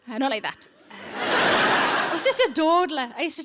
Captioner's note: audience laughing